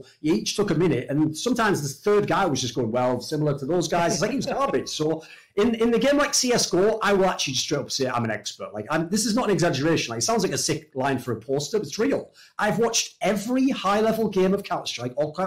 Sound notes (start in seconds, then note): 3.9 laughs